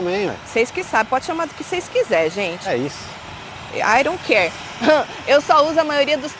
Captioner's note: laughs